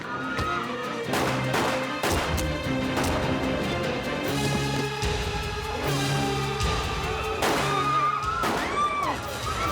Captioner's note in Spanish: disparos y gritos